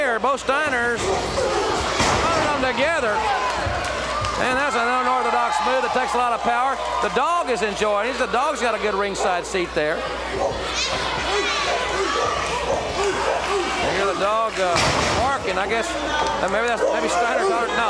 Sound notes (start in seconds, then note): 11.3 dog barks